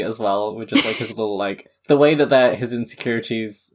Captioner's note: laughing